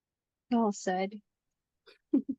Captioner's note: laugh